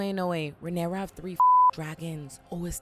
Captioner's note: beep